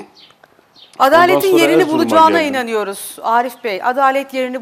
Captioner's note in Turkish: homurdanır